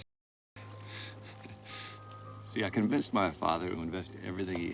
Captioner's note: laughs